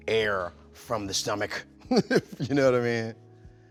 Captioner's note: chuckles